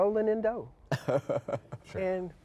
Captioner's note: laughs